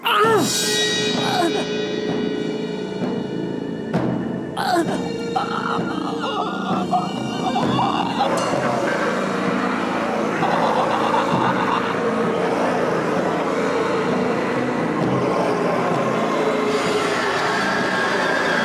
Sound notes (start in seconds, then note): 0.2 Gunderson groans; 0.2 dramatic music; 4.5 groaning continues; 12.1 dramatic music continues